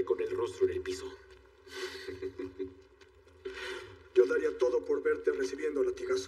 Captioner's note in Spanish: Ríe